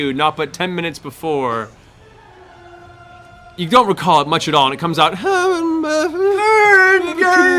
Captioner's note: tuneless humming; singing